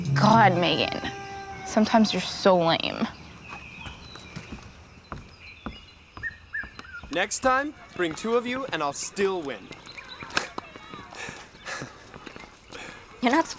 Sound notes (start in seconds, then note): 5.2 footsteps on wooden bridge; 9.6 Sebastien laughs; 9.6 children playing